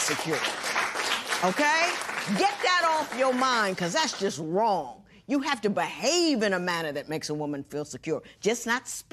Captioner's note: applause